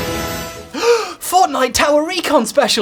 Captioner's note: gasps